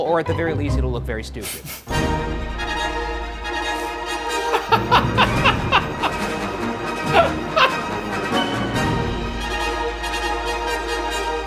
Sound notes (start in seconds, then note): 2.2 grandiose music; 4.4 laughing